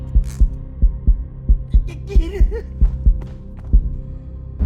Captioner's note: strong heartbeat sound